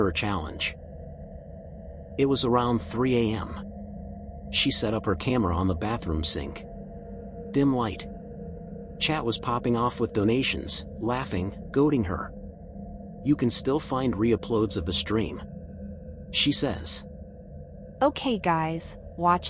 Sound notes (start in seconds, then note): 2.1 serious tone